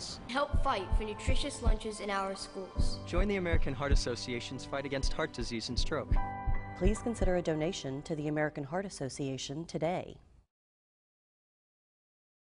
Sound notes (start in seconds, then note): 3.0 voiceover; 5.9 heart beats; 7.0 voiceover